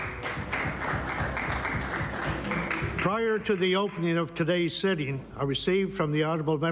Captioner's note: applause